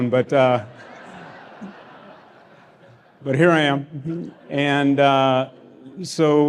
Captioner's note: laughter